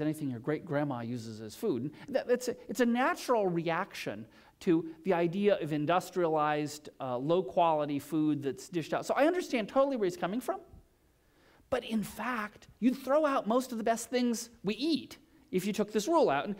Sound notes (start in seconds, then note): none